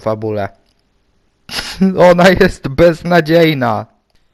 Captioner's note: laughing voice